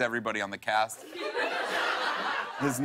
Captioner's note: laughter